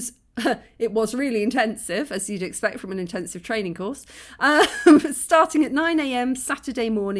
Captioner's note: laughing